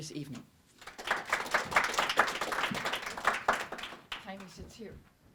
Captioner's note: audience applause